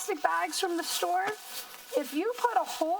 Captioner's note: plastic crinkling